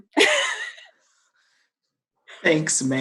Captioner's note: laughs